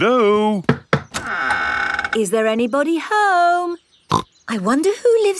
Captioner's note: door creaks; snorts